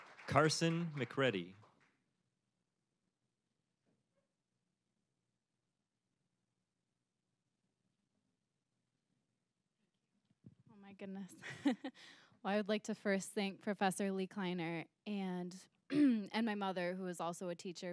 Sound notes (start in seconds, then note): 11.4 chuckling